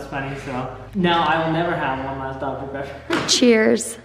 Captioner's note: laughs